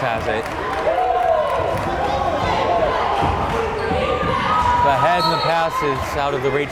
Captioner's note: crowd chanting defense